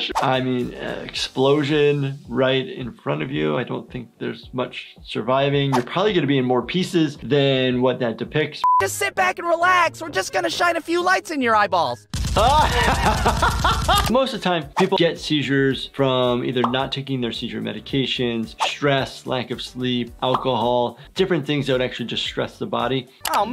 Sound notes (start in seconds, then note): 12.3 laughing